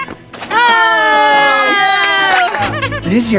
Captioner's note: everyone cheers; toy squeaking